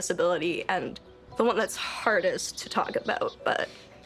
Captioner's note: voice breaking